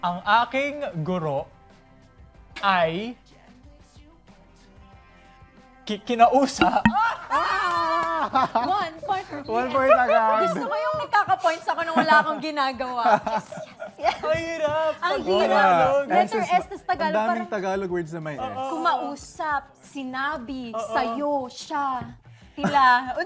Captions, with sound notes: (In Tagalog) My teacher... - spoke to... - [ERROR SFX] - Oh! - [CHEERING, CHUCKLING] - We each get a point. - One point for us. I like this game. I'm getting points without doing anything. - [CHUCKLING] - Yes. - It's so hard! - I know, right? Many Tagalog words have the letter S. Speak, say, yours, she, themselves...